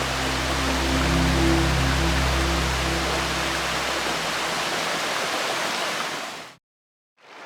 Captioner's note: rushing water and background music